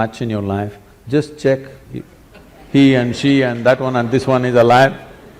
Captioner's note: laughter